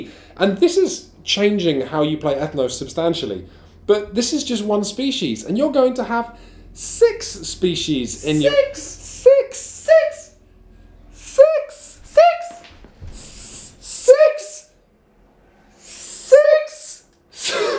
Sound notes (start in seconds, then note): 11.3 high voice; 12.3 even higher voice; 14.0 ridiculously high voices